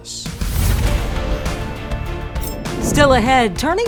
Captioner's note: air whooshing; triumphant music